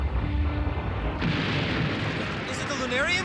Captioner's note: explosion